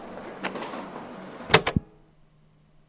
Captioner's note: click